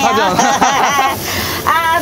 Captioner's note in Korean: 웃음